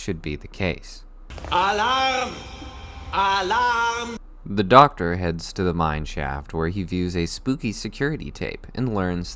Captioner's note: alarm blares